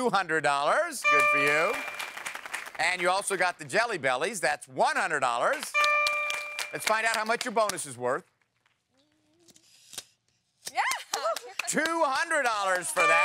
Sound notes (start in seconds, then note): 5.4 applause; 5.8 ding